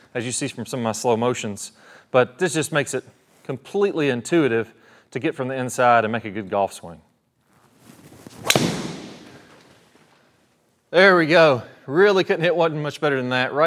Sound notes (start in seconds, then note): 8.3 golf club thwacking